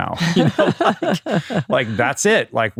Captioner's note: laughing